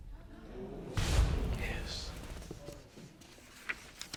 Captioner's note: audience murmuring